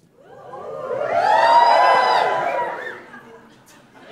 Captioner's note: whistle